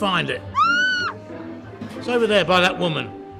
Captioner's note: woman screams